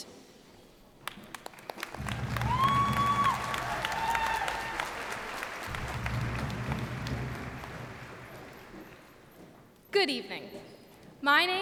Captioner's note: cheers and applause